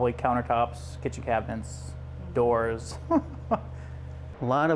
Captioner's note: laughs